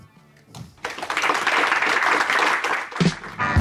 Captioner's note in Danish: klapsalve